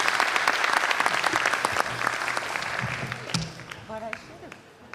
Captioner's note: applause